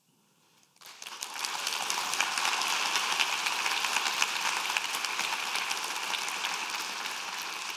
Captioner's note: applause